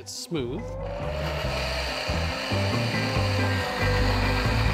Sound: blender whirring

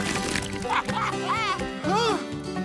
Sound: laughing

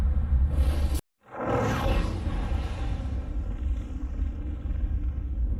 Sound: fire ravaging noises

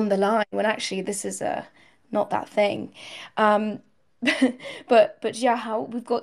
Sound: chuckles

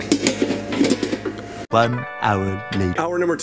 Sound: pan rattles

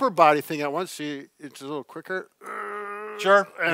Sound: grunts

